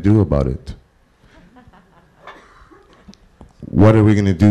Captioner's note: laugh